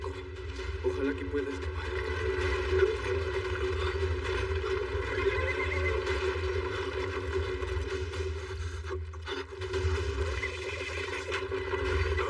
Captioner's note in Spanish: Relincha